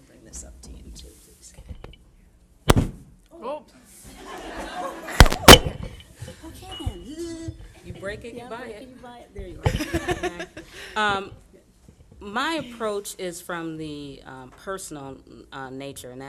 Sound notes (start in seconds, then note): 4.1 audience laughing